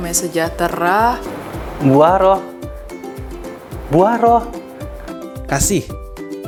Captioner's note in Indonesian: Tertawa